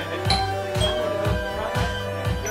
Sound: doorbell

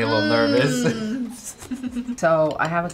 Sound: both laugh

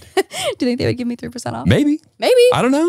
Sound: laughs

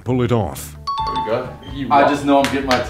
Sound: chimes

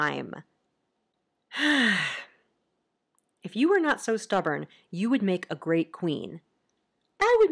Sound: sighs

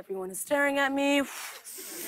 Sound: breathes deeply

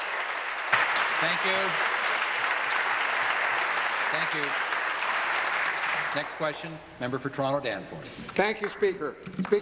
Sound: applause

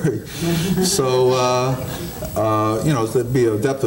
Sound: audience chuckling

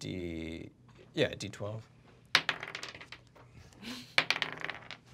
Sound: dice clacking

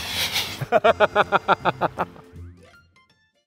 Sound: laughing

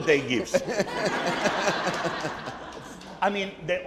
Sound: audience laughing

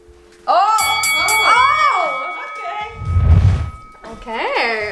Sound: fighting bell rings

